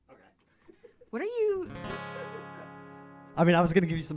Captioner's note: Fraug laughing